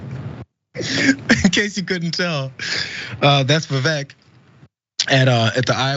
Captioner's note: laugh